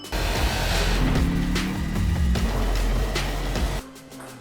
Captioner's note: engine roaring